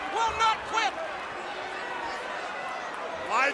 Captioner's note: crowd chatter